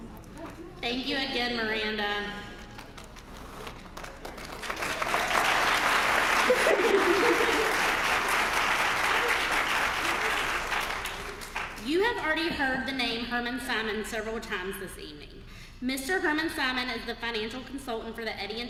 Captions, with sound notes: >> Thank you again, Miranda >> [APPLAUSE] >> You have already heard the name Herman Simon several times this evening. Mr. Herman Simon is the financial consultant for the Eddie and